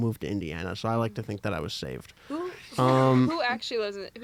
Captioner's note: laughter